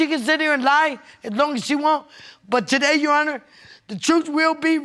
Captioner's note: none